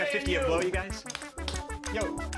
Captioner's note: slaps hands together